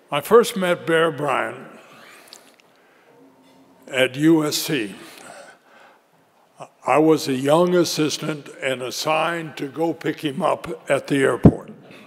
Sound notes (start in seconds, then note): none